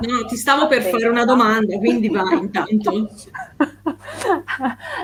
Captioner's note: they laugh